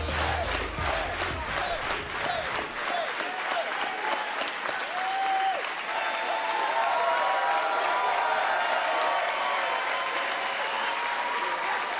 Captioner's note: fans chanting